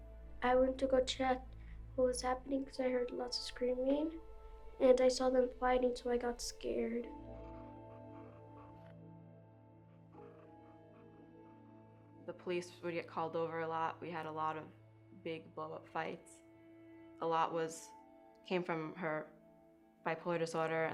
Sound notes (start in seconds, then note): 7.4 pen scribbling